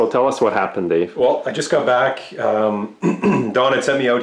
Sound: clears throat

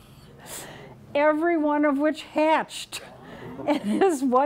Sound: audience murmuring

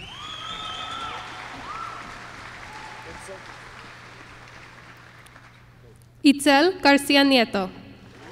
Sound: applause

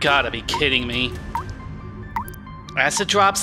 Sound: drip, sizzle

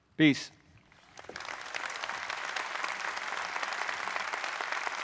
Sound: audience applauding

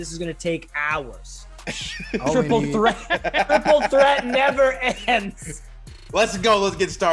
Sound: laugh

